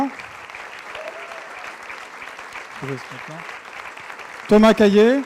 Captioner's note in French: applaudissements